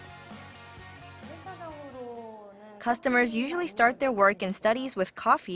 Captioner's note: Korean